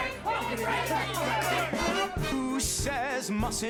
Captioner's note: lively chatter